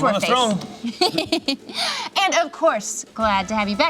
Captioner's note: laughs